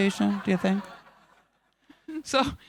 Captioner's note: audience laughing